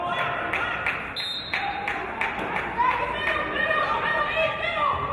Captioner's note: referee's whistle